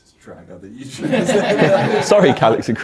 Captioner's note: laugh; audience laughs